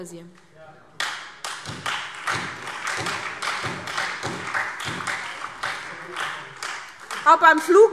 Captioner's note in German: Heiterkeit und Beifall SPD und Freie Demokraten